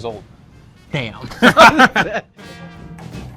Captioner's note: laughs